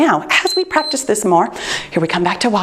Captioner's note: timer beeps